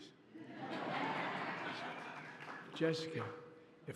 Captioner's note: laughter